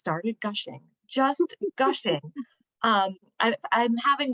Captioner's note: laughter